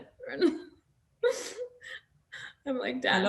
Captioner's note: Nasim laughs